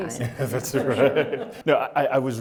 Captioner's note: laughter